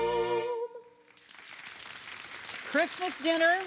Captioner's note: audience applauding